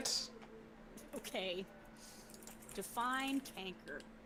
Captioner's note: typing